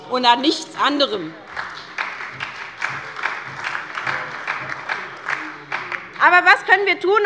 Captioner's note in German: Beifall bei der SPD - Zurufe von der CDU: Oh!